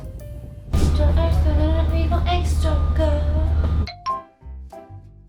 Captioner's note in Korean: 흥얼